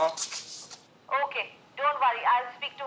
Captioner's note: on phone